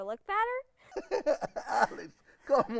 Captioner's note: laughing